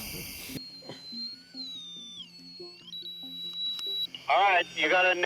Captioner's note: signal whining